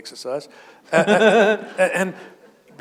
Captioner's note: chuckle